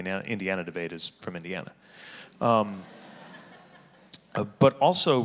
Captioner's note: audience laughing